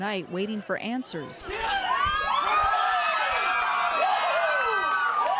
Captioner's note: crowd cheering